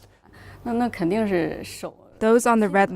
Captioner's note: speaking foreign language